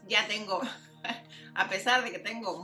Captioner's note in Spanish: risa